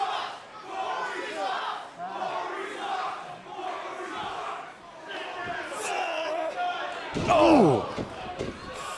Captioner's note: crowd cheering